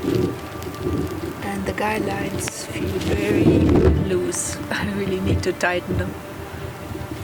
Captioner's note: laughs